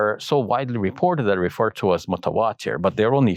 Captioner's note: speaks Arabic